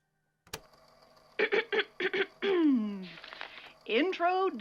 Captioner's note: click; clears throat